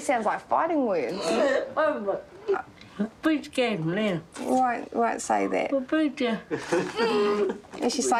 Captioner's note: grunts